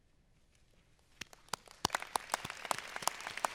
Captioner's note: applause